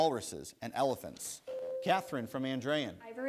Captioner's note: bell rings